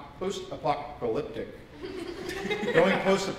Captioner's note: laughter